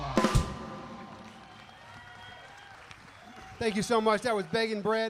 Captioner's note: audience applauding and cheering